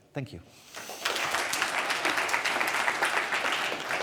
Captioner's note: applause